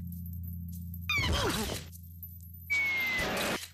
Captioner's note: groaning